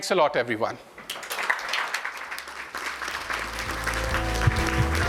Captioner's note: applause